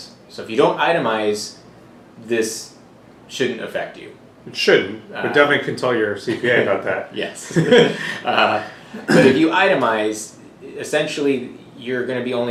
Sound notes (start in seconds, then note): 7.5 laughing